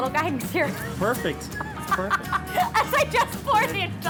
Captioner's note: laughing